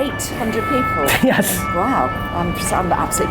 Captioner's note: laughs